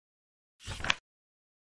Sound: page flip sound

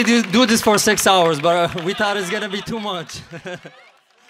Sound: laughs

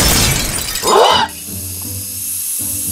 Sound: glass breaking; all gasp; steaming

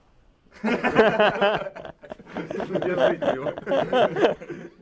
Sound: laughing

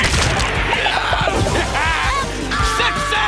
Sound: screaming

